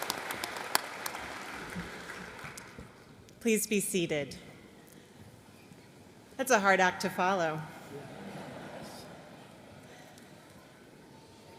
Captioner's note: applause